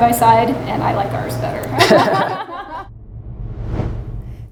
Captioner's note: laughing